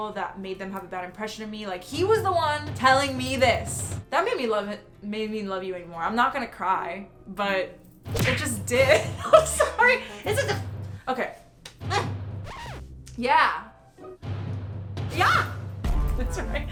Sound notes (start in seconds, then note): 8.0 skin smacking; 8.8 laughing; 12.4 record scratching